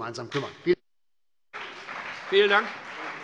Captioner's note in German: Beifall CDU und BÜNDNIS 90/DIE GRÜNEN